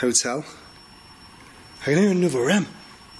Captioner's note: beeping